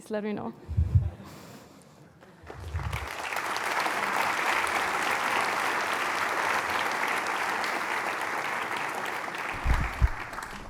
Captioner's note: applause